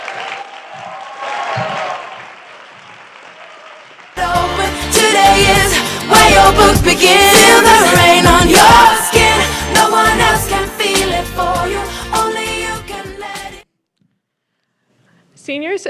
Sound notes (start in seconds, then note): 2.4 applause